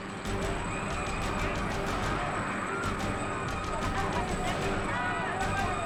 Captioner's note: line snapping; dramatic music; helicopters buzzing; people yelling; dramatic music; helicopter imploding